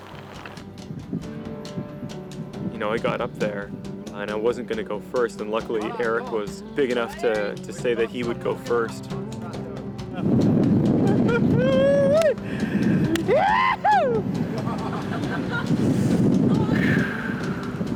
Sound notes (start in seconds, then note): 14.4 laughter; 16.7 deep breath